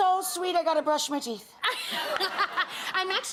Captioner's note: Leah and audience laughing